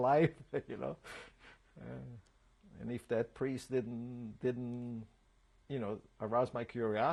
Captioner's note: laughs